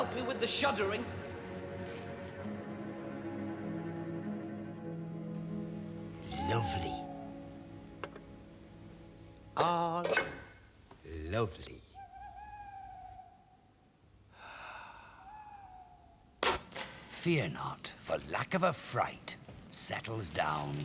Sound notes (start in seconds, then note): 13.1 owl hooting; 14.2 sighs